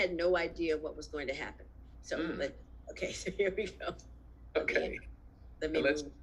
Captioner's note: laughs